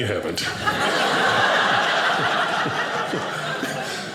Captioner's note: audience laughing